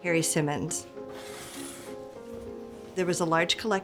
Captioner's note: box whooshing